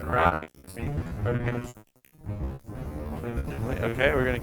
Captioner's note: voice garbles